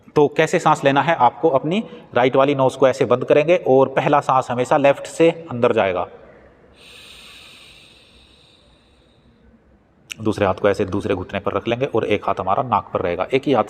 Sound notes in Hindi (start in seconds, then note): 6.8 नाक से की जाने वाली आवाज़